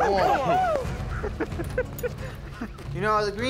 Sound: all cheering

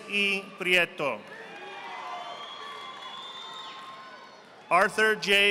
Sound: audience applauding

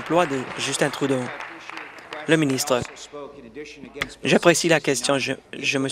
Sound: applause

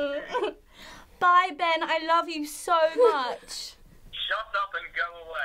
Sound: English accent

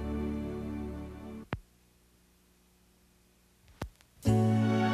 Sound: turntable pops; sad country music

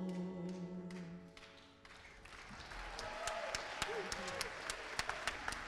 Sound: applause

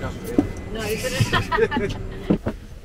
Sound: both laugh

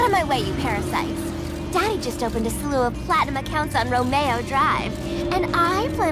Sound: beeping, flashing sounds; flashing sounds; flashing sounds

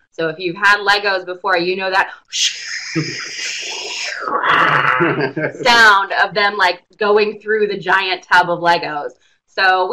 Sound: sound effects

